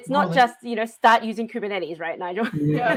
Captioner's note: laughs